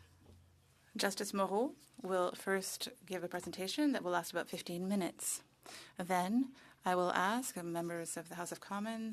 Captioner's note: speaking French